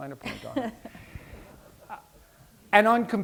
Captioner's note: laughter